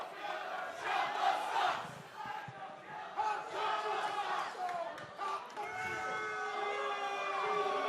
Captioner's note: fans chanting